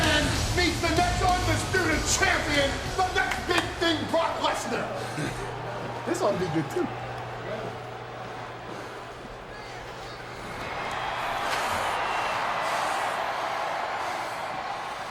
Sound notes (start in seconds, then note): 0.0 energetic rock music; 5.0 Lesnar sighing; 8.1 crowd softly cheering; 10.7 cheering intensifies; 12.2 Lesnar huffing